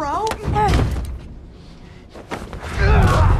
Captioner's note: thuds; exclaims